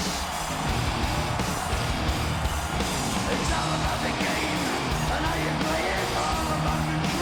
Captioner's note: audience cheers; upbeat music continues